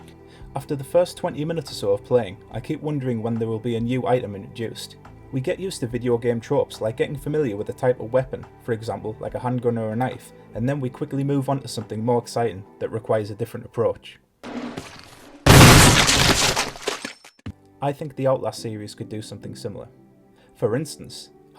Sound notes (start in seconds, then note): 15.4 shotgun blast